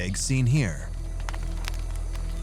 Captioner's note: fire crackling